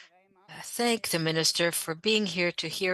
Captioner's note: speaking French